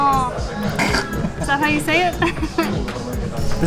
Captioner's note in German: Lachen; Lacht